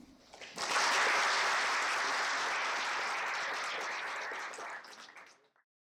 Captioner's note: applause